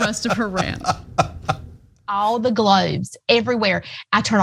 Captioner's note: laugh